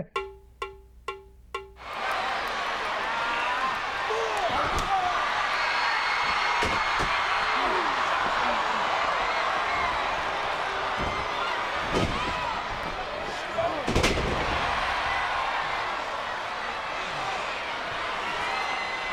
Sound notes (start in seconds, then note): 0.0 drum music; 2.0 audience cheering; 2.0 wrestlers grunting; 4.5 audience roaring; 14.6 audience cheering